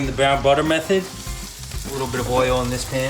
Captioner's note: steak sizzling